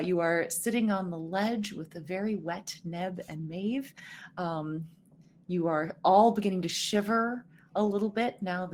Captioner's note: none